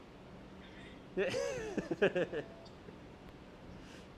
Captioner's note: laughs